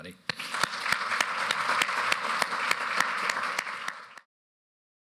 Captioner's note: applause